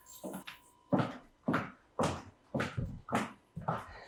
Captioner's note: footsteps